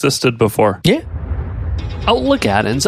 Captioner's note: air whooshing